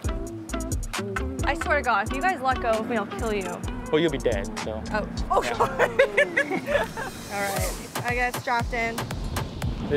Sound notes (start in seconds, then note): 0.1 light music; 5.3 laughs